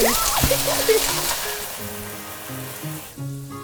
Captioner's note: oil sizzling; gentle music